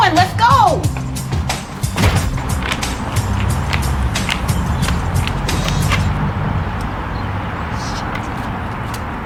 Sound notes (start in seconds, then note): 2.0 door clacking; 4.0 upbeat music continues